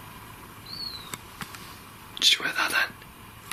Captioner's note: whistling